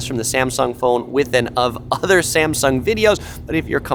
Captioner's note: giggles